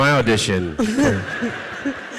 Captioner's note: audience laughs